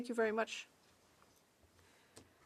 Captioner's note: speaking French